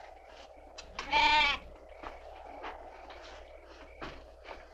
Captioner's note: goat bleating